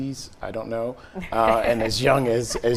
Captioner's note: giggling